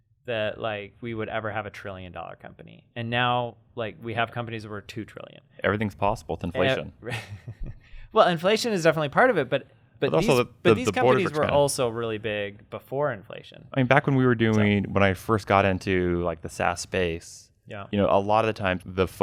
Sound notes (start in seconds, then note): 7.0 laughs